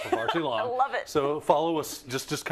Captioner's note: laugh